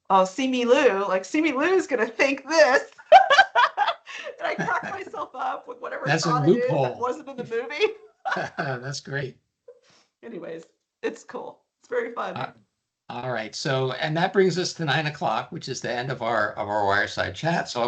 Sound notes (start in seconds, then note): 3.0 laughing; 4.4 chuckling; 8.3 laughing